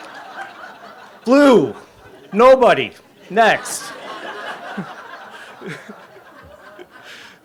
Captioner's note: audience laughs; laughs; audience laughing